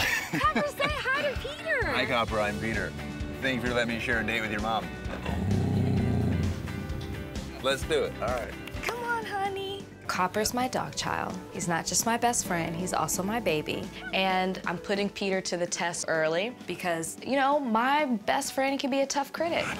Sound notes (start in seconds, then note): 5.0 growls